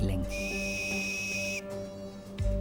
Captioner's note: drill whirring